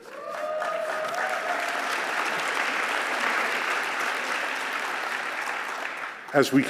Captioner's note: applause